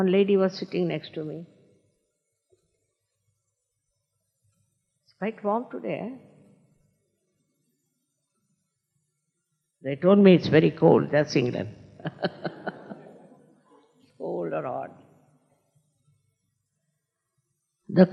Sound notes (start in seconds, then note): 12.0 laughs